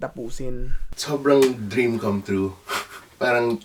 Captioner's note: chuckles